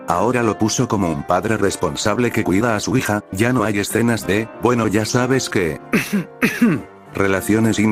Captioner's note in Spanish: Cough